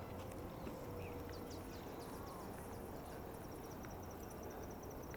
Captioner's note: birds twittering